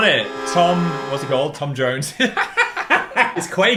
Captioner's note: laughs